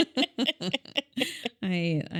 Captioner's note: laughing